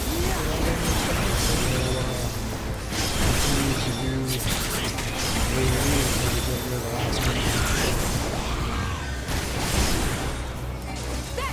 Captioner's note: explosions